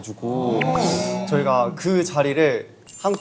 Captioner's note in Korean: 놀람